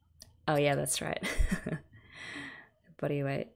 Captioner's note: laughs